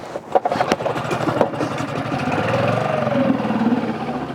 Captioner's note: boat motor rumbles